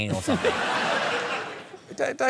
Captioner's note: laughter